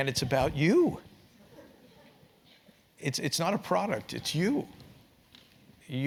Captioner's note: laugh